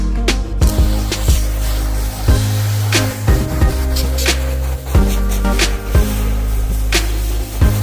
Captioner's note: water hose sound